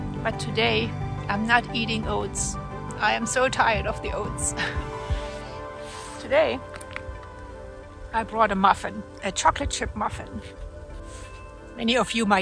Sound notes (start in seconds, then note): 5.6 laughs